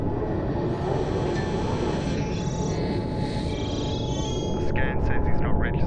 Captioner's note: drone buzzing